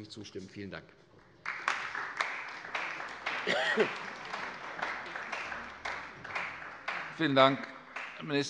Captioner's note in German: Beifall bei der CDU